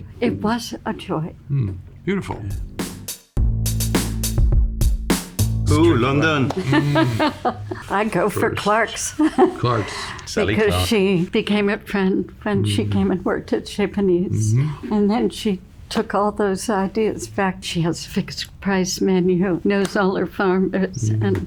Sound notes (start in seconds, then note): 2.5 upbeat music; 6.5 laughs